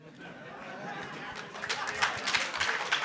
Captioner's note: audience laughing; audience applauding